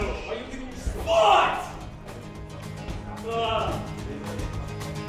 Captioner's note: sound of men groaning